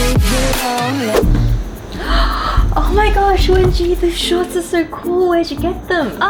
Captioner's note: excited breath noises